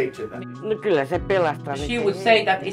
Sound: speaking in a foreign language

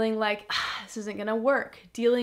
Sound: sighs

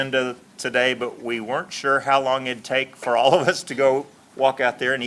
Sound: laughs

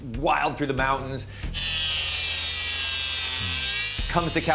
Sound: saw whirring

